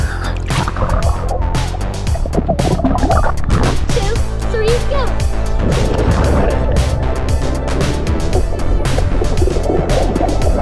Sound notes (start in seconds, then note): 0.0 inhales; 5.6 water splashes